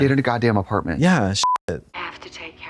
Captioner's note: beep